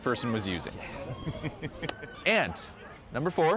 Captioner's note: laughs